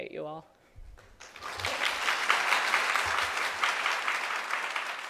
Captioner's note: audience applauds